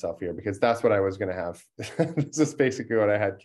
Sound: laugh

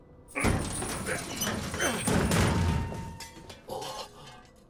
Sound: heavy grunt

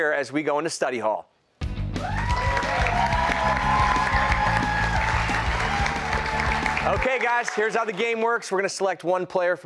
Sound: cheers and applause

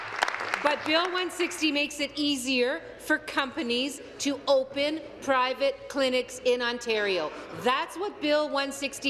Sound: applause

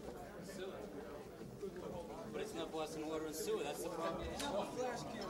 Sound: all continue murmuring

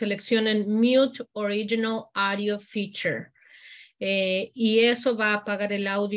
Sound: continues speaking in Spanish

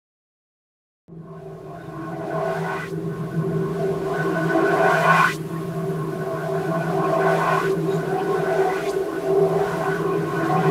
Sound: alien soundscape

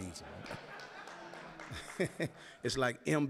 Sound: audience laughing

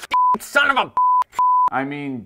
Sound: beep

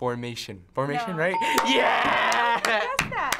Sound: ding

